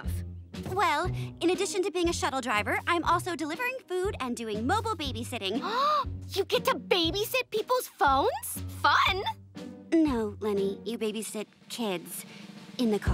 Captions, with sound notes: Well, in addition to being a shuttle driver, I'm also delivering food and doing mobile babysitting. [gasping] You get to babysit people's phones? Fun. No, Leni, you babysit kids in the car.